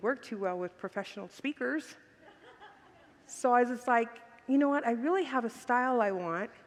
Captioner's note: congregants laugh